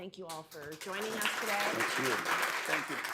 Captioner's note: applause